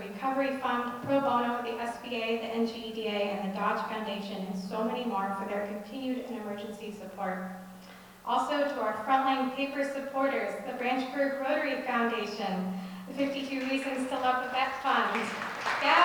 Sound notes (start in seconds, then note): 13.2 audience clapping